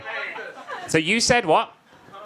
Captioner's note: audience talking